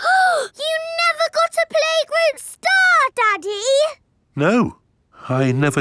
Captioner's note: gasps